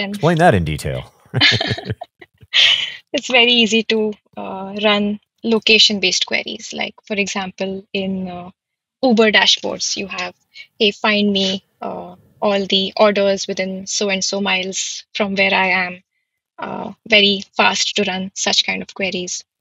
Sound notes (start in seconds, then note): 1.3 both laughing